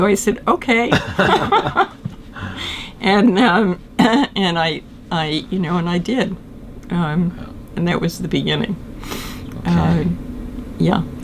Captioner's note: laughter